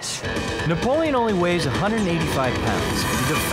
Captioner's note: none